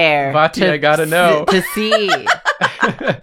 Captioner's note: laughter